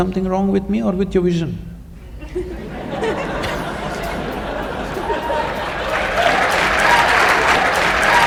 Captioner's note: laughter/Applause